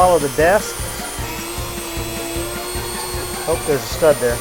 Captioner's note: Dremmel buzzing